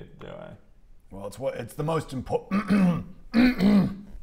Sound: ahem

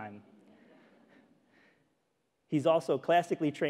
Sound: audience chuckling

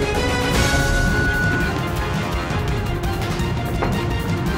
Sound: dramatic music; round timer sounds

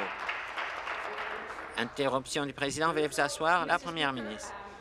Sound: applause

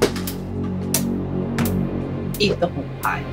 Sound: ticking

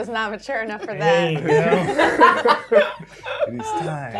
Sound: gamers laughing

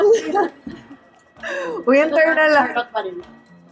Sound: laughs

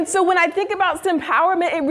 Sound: none

